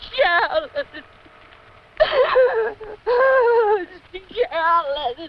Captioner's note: sobbing